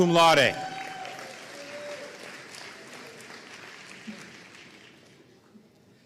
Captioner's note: audience cheering and applauding